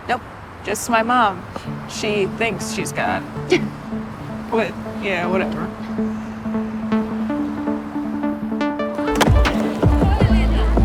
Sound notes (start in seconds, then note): 3.5 chuckles; 6.6 rhythmic music